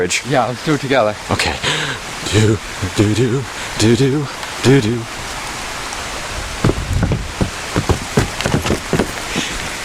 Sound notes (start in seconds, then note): 6.6 rapid Footsteps on Wood